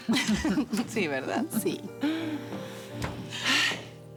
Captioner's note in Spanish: Risas